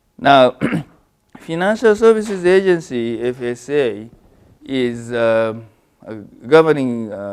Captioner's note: cough